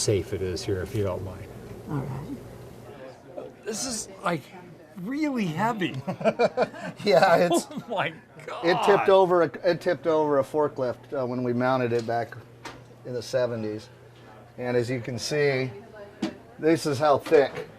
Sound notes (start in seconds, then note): 6.0 laughing